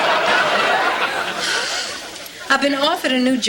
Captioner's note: sighs